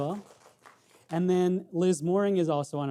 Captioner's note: audience clapping